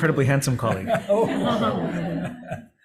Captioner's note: laughter